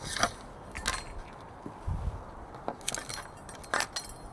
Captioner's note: metal clanking